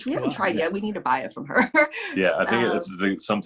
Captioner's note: laughs